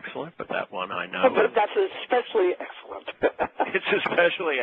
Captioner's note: laugher